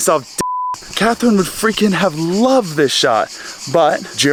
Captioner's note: beep